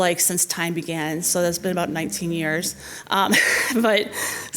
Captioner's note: laughs